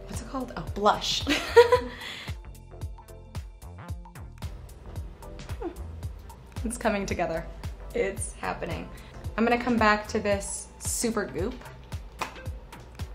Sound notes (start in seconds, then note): 1.3 giggles